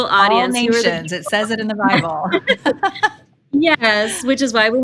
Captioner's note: laughs